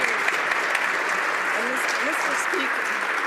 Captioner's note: some Applause